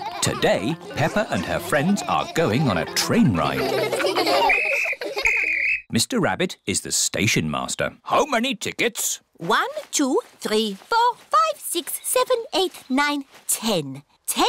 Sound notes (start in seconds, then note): 4.4 blows whistle